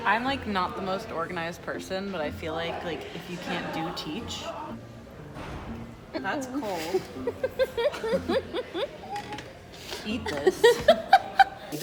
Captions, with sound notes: I'm not the most organized person but I feel like, if you can't do, teach. That's cold. (laughing) Eat this.